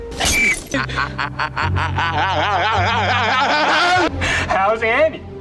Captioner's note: laughter